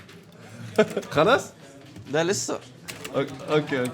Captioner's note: arabic banter